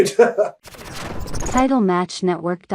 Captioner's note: laughs; electric warbling; voiceover